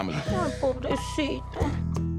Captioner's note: speaking Spanish